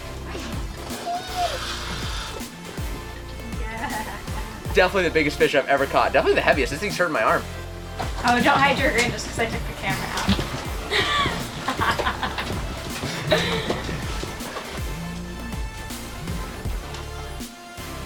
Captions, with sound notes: Definitely the biggest fish I've ever caught. Definitely the heaviest, this thing's hurting my arm. - Oh, don't hide your grin just 'cause I took the camera out. (laughs quickly) (upbeat music)